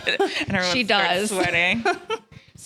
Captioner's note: laughs